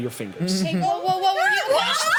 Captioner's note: laughs